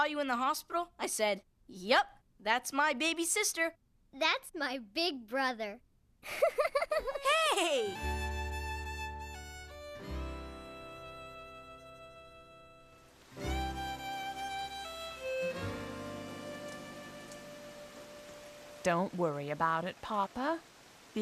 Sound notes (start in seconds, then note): 6.2 laughing